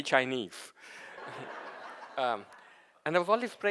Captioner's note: audience laughing